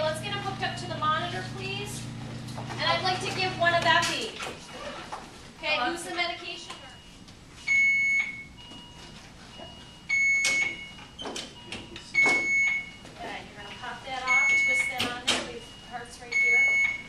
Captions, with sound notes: Okay, let’s get him hooked up to the monitor please, and I’d like to give one of epi. Okay who’s the medication person? [machines beeping] Okay, you’re going to cut that off. Twist that on to the parts right here.